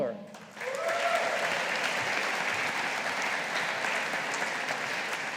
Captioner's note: audience applauding